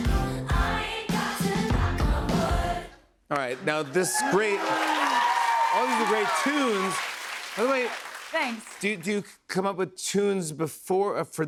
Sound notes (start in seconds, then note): 6.8 cheers and applause